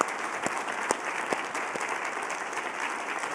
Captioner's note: applause